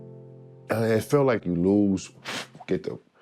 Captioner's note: exhales sharply